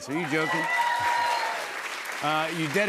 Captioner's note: cheers and applause